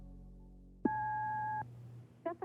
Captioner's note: beeping